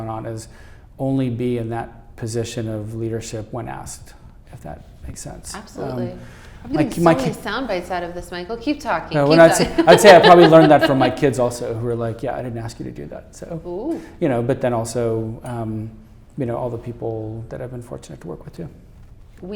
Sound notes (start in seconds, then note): 6.5 voice muffled